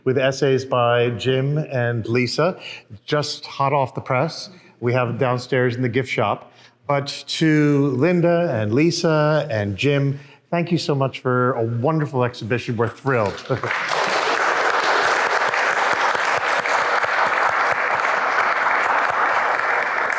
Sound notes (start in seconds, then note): 13.1 audience applauds